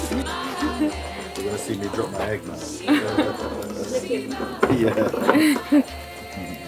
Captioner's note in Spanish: risas